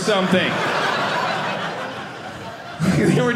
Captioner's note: audience laughing